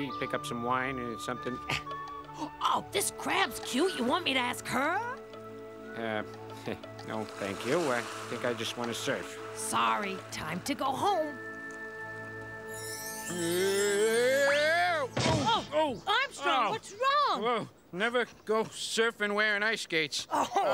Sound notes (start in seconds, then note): 13.0 magical music; 14.6 Armstrong yelling; 15.1 Armstrong thudding